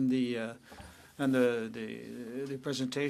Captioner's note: speaking french